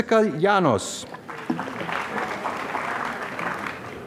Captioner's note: applause